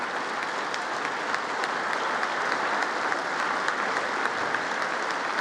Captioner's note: congress applauding